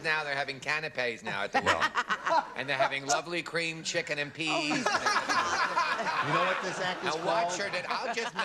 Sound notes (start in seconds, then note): 4.5 jimmie laughing